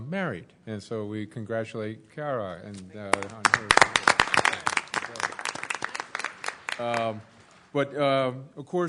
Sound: applause

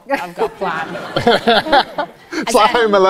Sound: audience laughs

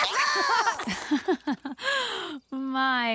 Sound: chuckles

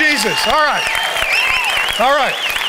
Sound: congregation applauding

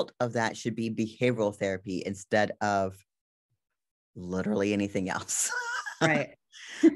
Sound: laughs

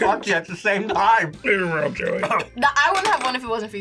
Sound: coughs

